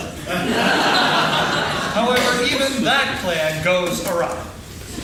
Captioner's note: laughing